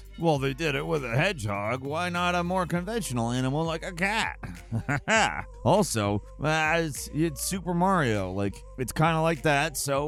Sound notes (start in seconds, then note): 4.4 chuckles